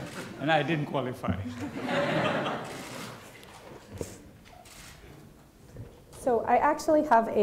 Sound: laughter

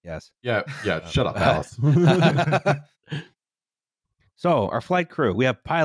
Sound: laughter

